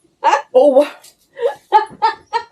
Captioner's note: laughter